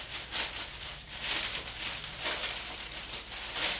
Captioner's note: crinkling